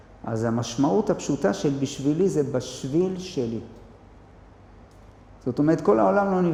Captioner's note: in Hebrew